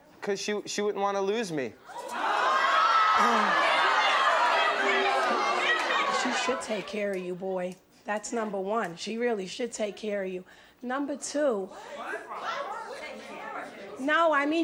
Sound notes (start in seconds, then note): 1.9 audience goes wild